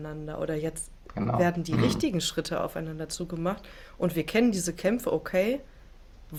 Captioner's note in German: räuspern